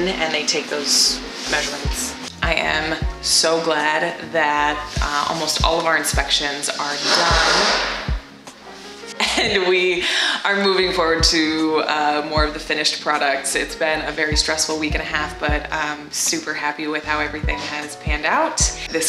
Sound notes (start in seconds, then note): 6.8 crashing; 9.2 laughing